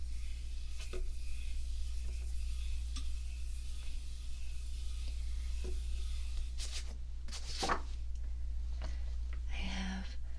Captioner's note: paper asmr sounds